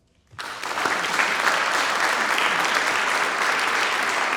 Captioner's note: audience clapping